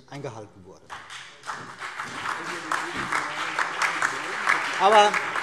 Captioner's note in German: Beifall BÜNDNIS 90/DIE GRÜNEN